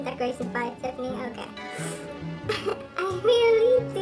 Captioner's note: laughs